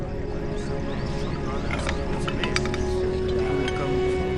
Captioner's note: indians chattering